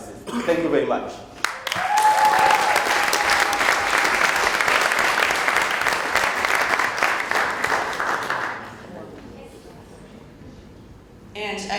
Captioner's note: applause